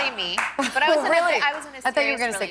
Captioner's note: laughter